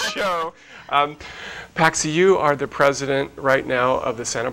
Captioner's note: laugh